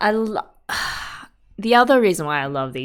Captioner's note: sighs